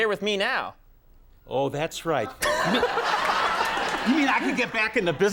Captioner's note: Conan laughs